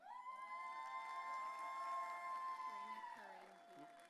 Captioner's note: audience cheering